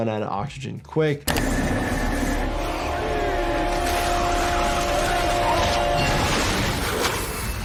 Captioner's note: tense music; pump churns; water roars